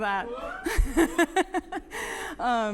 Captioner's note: laughinG; audience cheering